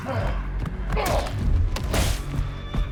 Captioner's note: punch thuds loudly